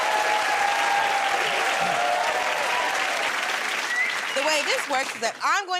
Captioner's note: cheers and applause